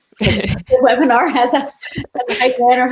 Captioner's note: laughs